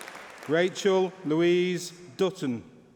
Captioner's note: applause